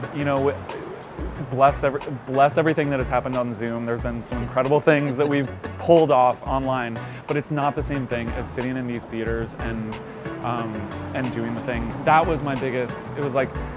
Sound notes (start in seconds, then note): 4.6 laughs